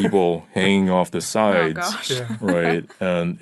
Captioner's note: laughs